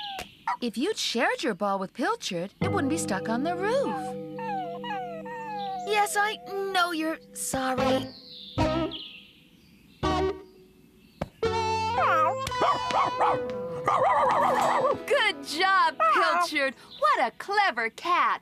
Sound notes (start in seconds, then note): 3.7 whimpers